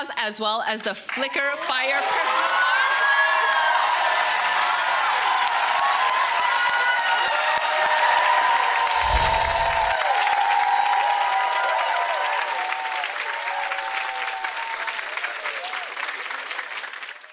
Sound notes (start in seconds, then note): 2.8 audience cheering and applauding; 8.7 audience applauding